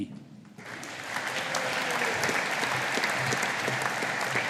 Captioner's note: audience applauding